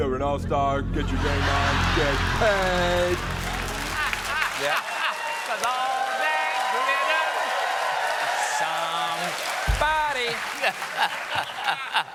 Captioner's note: cheers and applause